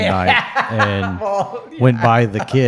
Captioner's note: laughs